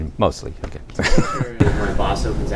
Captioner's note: laughter